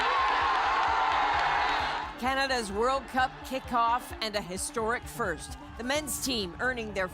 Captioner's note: cheers and applause